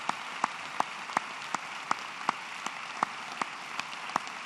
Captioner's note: applause